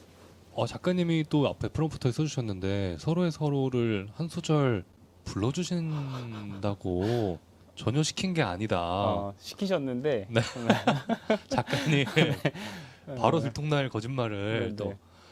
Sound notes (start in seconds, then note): 10.5 laughs